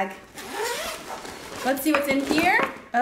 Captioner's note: zipping